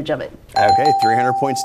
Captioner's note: dings